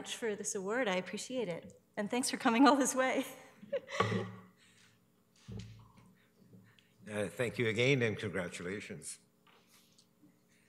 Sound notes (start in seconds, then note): 4.3 laughing